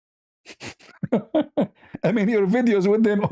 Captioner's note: ketawa